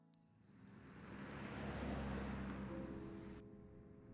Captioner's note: crickets chirping; quiet music plays